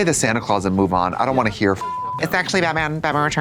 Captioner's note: beep